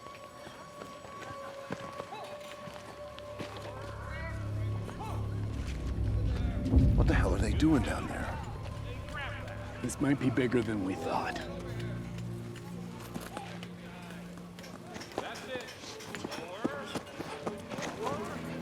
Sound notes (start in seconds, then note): 0.2 eerie music continues; 3.2 people shouting